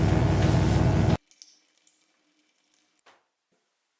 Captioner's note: electric buzzing